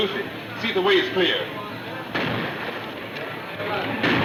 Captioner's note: gunfire booms